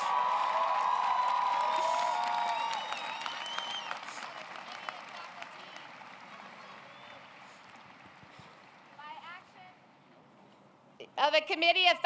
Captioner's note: applause